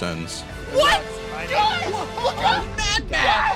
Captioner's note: laughter